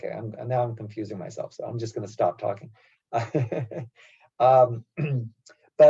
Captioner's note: laugh